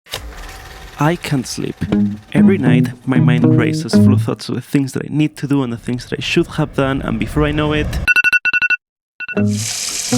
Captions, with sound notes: I can't sleep. Every night my mind races full of thoughts with things that I need to do and the things that I should have done and before I know it [iPhone alarm]